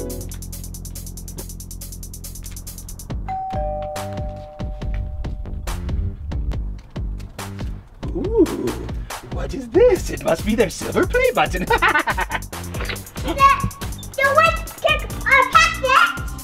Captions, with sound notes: [Suspense music] Ooh.. what is this? It must be their silver play button. [Cackling laughter]